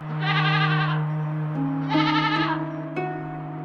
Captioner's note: goat bleating